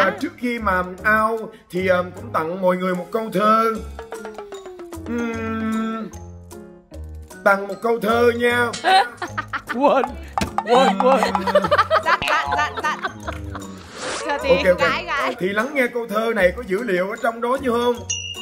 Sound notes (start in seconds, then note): 10.6 laughing